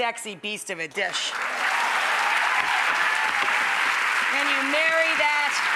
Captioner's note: audience applauds